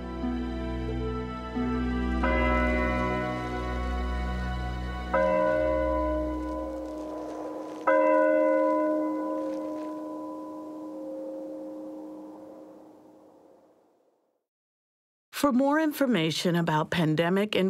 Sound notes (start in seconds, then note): 1.2 bell tolling